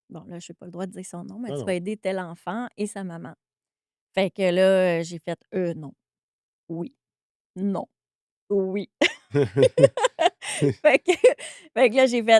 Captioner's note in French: rires